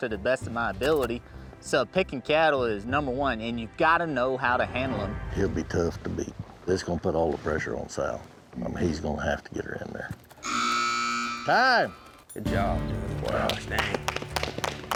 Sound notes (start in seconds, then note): 10.4 buzzer sound; 13.1 applause